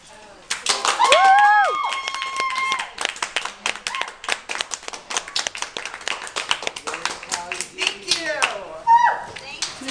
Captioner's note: applause